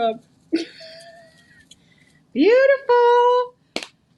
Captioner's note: laughing